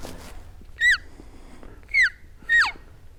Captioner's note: caller cow calling